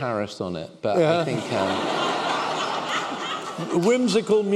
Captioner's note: laughter